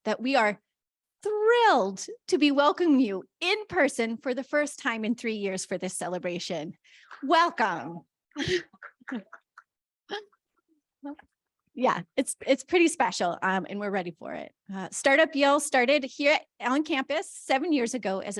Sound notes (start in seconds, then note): 8.4 laughs